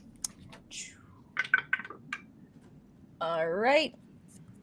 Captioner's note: dice rattling